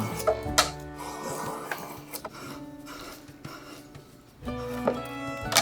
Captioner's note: tool scrapes, gentle music